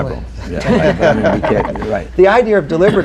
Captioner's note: laughter